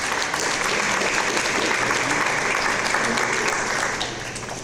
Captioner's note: audience applause